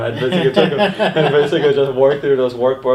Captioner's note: laughing